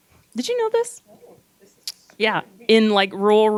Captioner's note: gentle speaking